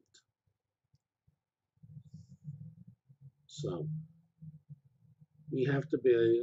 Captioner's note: pause